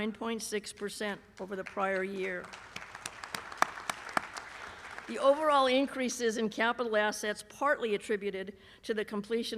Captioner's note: applause